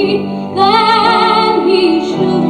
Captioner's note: none